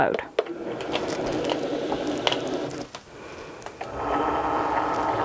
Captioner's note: machine buzzing